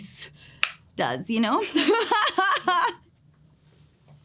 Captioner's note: laughs